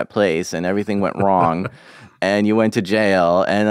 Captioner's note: laughs